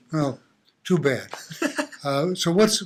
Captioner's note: laughing